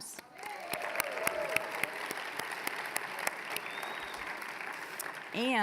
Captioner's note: applause